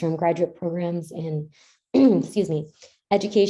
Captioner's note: clears throat